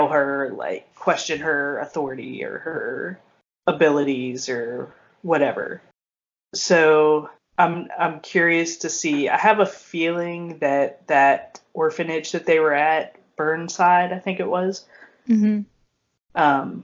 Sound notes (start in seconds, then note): none